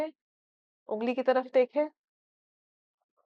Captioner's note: in Urdu